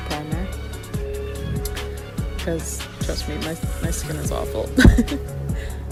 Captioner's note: laughs